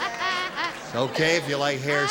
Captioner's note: nipsey laughin